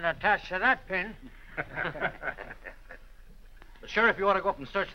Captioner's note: laughter